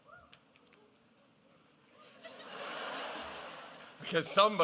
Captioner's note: laughter